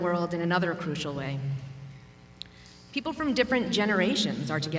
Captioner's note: none